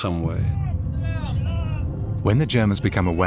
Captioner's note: muffled yelling